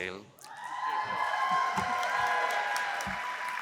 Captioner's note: cheering